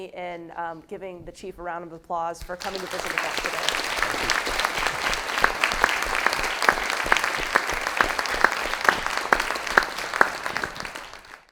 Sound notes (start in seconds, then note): 5.7 audience applauding